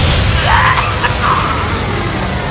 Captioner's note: painful grunt